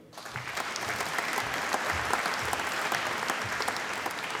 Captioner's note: applause